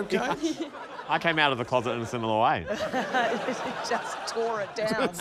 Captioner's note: laughter